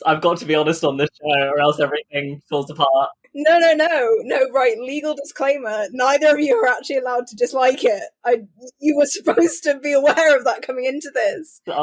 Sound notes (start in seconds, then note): 8.8 laughing